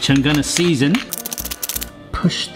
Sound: rattling

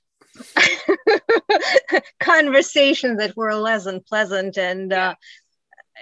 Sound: laughs

